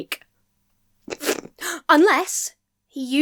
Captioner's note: chortles